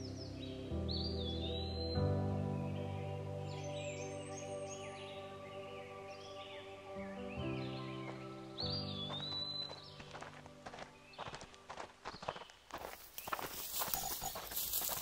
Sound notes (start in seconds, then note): none